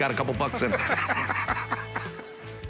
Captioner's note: laughs